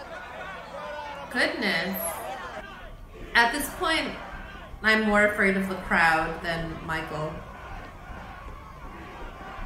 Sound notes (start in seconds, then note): 1.1 crowd loudly chattering